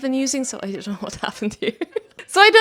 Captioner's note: laughs